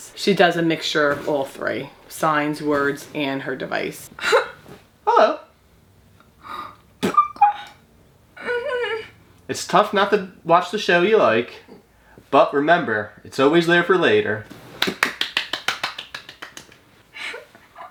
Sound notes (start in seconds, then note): 8.4 whimpers; 14.8 claps